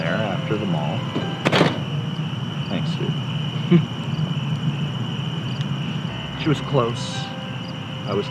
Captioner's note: log on fire